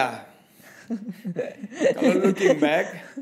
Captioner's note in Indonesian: tertawa